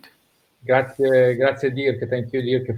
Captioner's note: speaks in foreign language